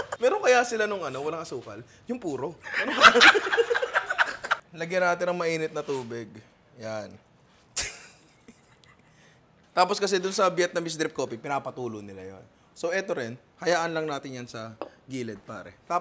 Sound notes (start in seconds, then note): 2.6 laughter; 7.8 chuckles